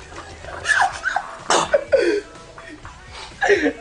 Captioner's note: still laughing; squeaky laugh; spills water & coughs